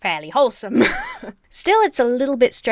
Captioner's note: laughs